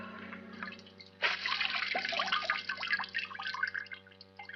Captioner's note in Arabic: رذاذ الماء